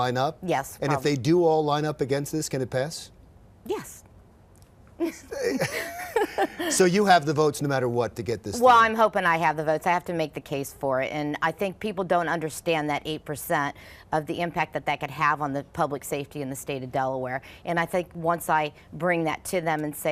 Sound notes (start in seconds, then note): 5.0 laughs